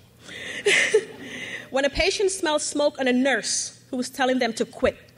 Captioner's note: laughs